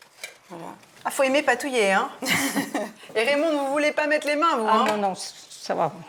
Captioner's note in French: rires